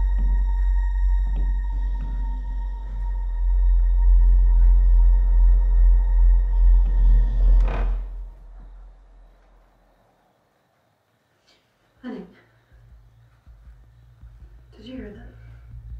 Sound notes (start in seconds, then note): 7.5 floor squeaks; 15.7 dramatic music